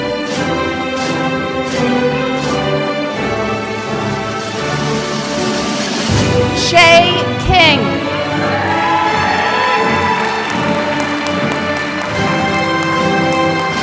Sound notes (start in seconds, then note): 8.0 applause